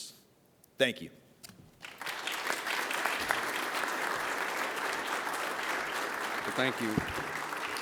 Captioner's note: applause